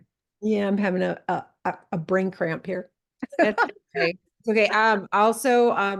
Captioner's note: laughs